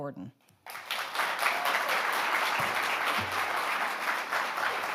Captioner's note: audience applauding